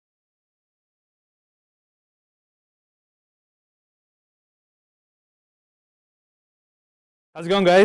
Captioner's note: silence